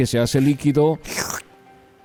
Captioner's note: ruido de succión